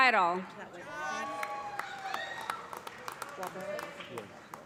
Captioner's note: cheers and applause